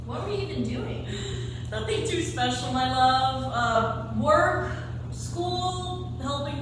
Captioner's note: chuckles